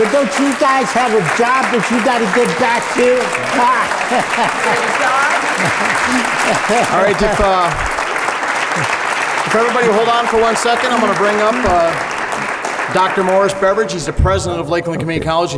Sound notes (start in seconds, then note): 3.4 laughter and applause